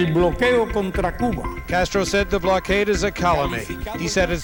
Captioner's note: speaking in Spanish